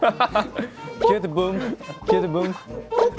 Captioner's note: laughter Explosion